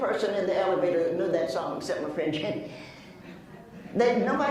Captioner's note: laughs